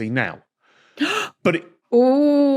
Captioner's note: gasps